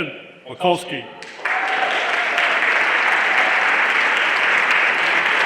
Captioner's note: everyone applauding